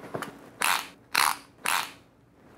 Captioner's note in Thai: เสียงสายวัดตัว